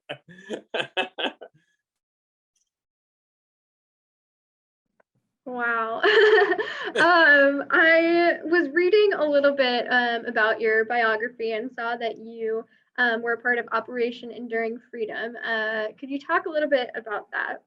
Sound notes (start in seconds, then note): 6.1 laughs